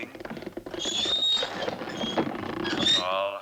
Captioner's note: cart wheels continue creaking